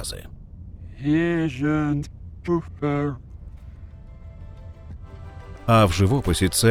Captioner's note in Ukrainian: нетипова манера вимови слів